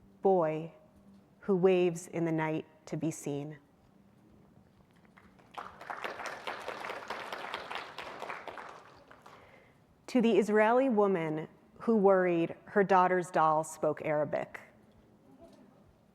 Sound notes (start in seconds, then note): 5.1 audience applauding